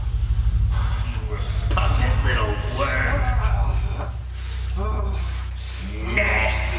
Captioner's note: Larry growling